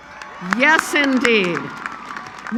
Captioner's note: applause